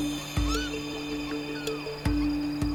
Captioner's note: birds calling